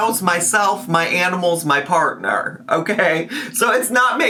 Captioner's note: laughs